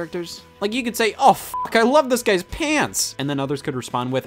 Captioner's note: beeps